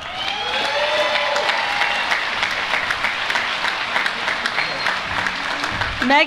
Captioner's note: applause